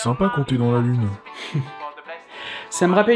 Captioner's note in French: Rire